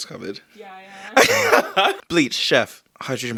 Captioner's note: boyfriend laughs